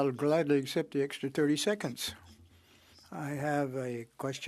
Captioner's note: speaking French